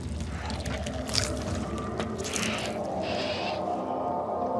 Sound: crunching

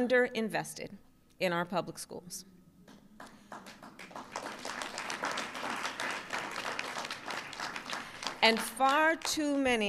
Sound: applause

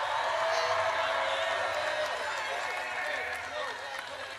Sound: audience cheers

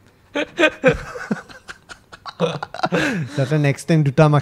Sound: laughs

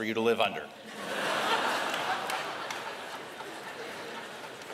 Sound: laughter

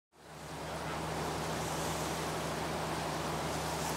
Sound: boat engine whirring

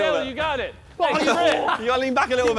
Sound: contestant laughing

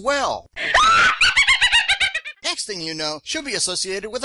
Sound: sound of witch's laughter

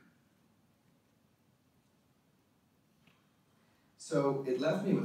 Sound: none

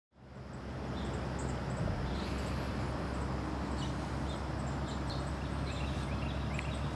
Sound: birds chirping

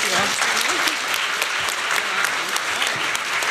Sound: applause

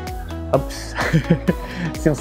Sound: chuckles

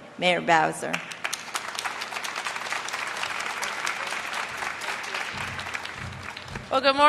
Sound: applause

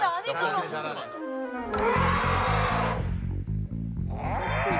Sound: elephant Sound

